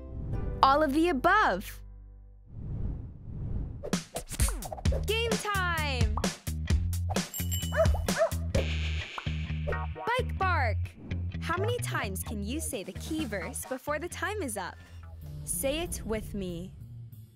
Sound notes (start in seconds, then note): 4.2 fun upbeat music; 7.3 bell dinging; 7.7 dog barking